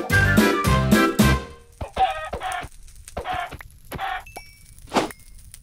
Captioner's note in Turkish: Tavuk Ölme Sesleri